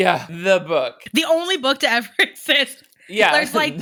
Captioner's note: laughs